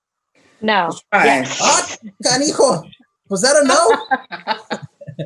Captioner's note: laughs